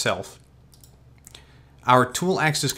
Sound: mouse clicks

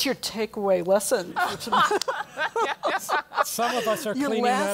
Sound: laugh

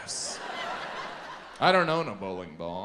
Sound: audience laughs

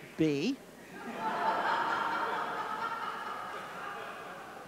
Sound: audience laughing

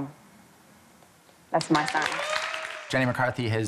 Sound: cheers and applause

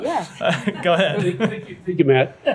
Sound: laughter

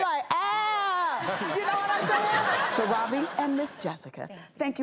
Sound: audience laughter

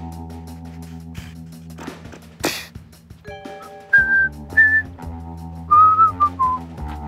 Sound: suddenly whistling

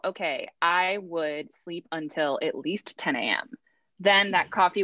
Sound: laughs

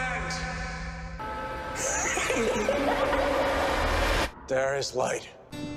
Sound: Jerome's evil laughter

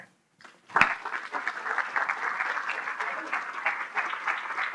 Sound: audience applauding

